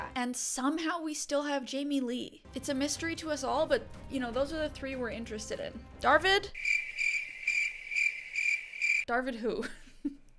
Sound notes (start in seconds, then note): 6.5 crickets chirping